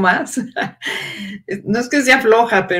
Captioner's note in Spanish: ríe